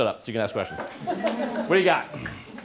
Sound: laughter

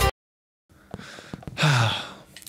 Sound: sigh

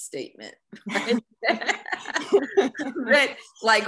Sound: laughing

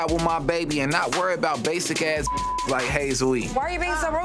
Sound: beep

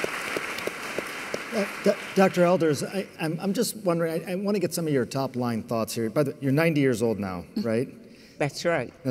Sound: applause

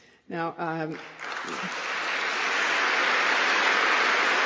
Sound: applause

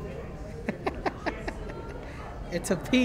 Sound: laughing

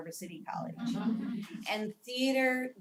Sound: laugh

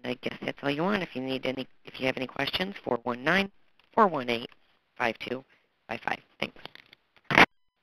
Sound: phone

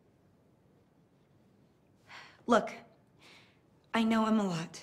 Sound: sighs

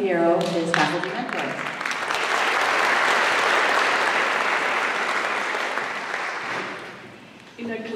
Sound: applause

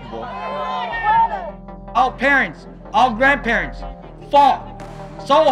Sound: chanting

